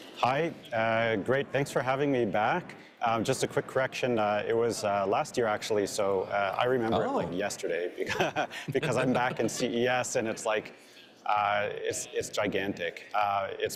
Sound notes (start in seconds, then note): 8.0 chuckles